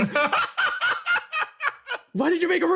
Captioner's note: laugh